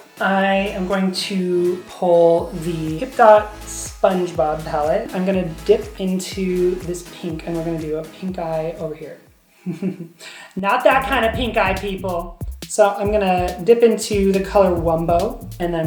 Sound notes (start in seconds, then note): 9.6 chuckling